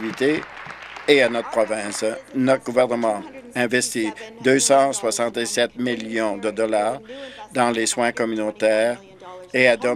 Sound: applause

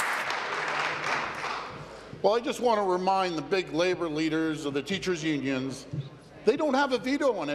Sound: applause

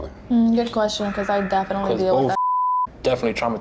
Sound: beep

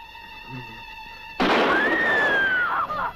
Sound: screaming

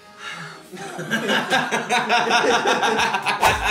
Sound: all laugh

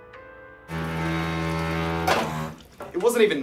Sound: sink grinds

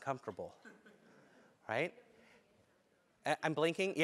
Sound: laugh

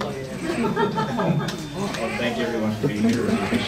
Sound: laughing

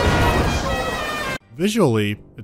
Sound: gaudy horn

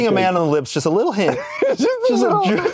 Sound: laughs

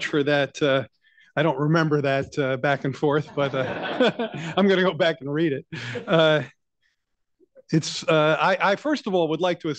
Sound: laughter

